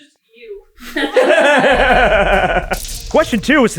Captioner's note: team laughter